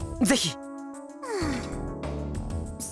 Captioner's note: sigh